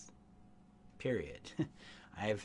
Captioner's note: chuckles